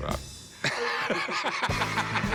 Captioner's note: laughing